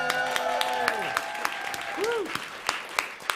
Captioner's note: applause